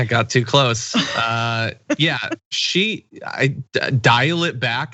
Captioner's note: laugh